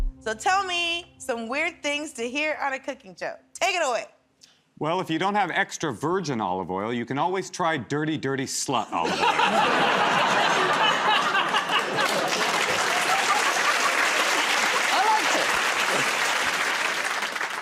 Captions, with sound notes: So tell me some weird things to hear on a cooking show. Take it away. -Well, if you don't have extra-virgin olive oil, you can always try dirty, dirty slut olive oil. [ Laughter ] [ Applause ] -I liked it.